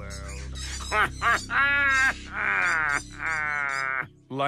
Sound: laughs

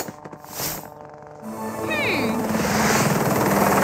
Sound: helicopter advancing

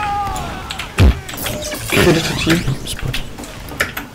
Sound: noise indicating humour

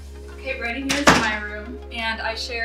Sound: light music; door shuts

